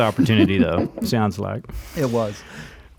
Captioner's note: laughs